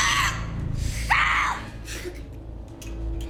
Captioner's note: Alejandra screams